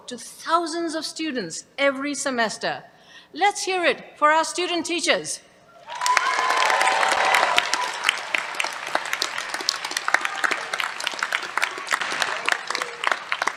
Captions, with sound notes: to thousands of students every semester. Let's hear it for our student teachers. [CHEERS, APPLAUSE]